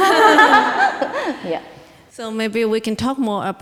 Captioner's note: both laughing